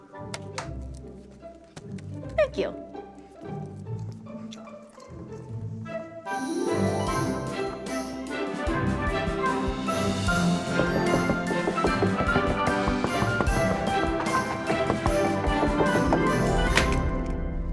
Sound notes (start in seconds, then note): 0.3 pen clacks; 11.2 knocks; 15.5 clipboard slams